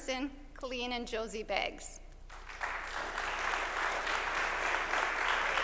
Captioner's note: applause